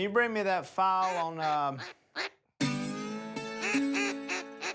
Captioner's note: quacking